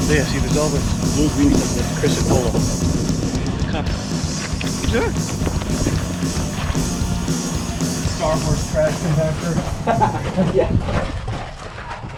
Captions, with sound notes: - There. See, there's all this little green stuff; that's chrysocolla. (energetic music) (man exclaims) - "Star Wars" trash compactor. (man laughs)